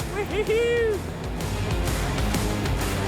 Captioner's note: slow rock music continues; cheers; slow rock music continues